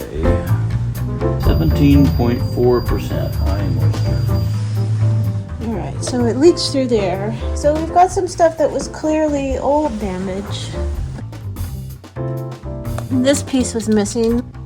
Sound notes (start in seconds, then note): 0.2 jazzy Christmas music; 1.2 beeping sound